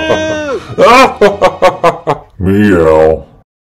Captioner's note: laughing maniacally